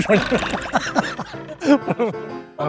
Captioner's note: panicking